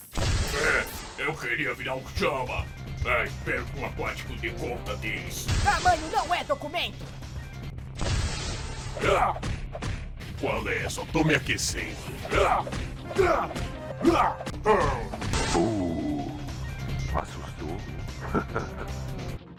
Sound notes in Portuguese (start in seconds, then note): 9.0 Gemido de esforço; 18.2 Risada